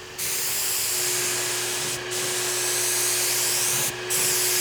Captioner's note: machine whirring